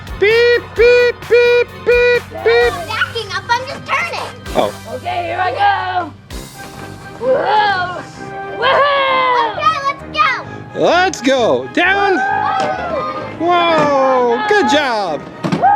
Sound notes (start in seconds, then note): 0.2 man makes beeping sound; 8.6 exclaims